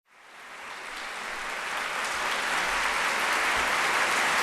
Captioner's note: applause